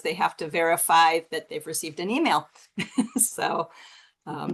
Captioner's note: chuckles